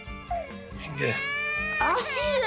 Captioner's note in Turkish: Bebek Ağlaması